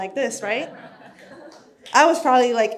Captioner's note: audience laughs